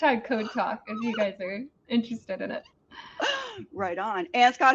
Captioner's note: laughs